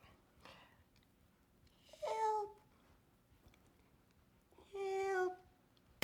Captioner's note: whispers; whispers